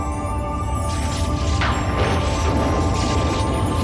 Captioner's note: rumbling